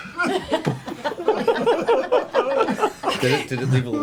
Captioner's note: all laugh